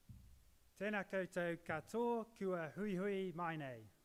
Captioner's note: speaking Māori